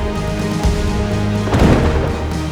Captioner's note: lightning cracks